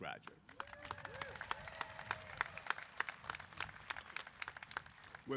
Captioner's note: applause